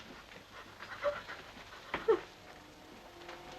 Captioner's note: Gwen whimpering